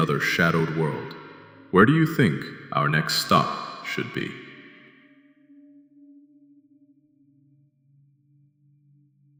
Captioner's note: whispering